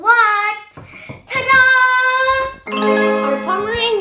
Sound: magic chimes

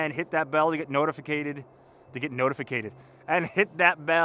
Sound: laughs

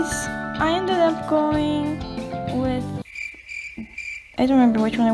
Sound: crickets

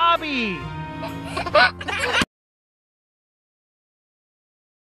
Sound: laughing

